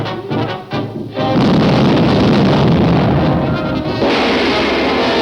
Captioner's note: grenade explodes